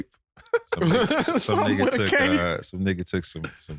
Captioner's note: laughing